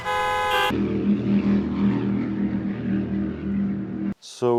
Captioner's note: boat noises